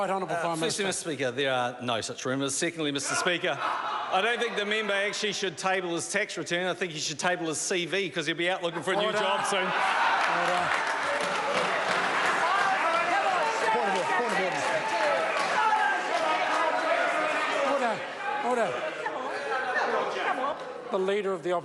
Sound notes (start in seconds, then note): 12.0 members applaud